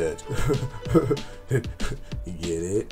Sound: cheesy laugh

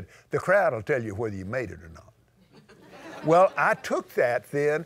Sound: laughter

